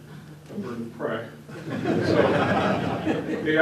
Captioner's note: laughter